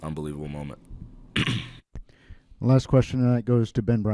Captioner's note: interviewer coughs